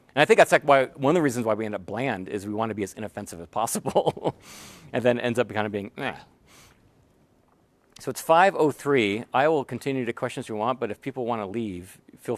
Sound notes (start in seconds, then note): 4.2 laugh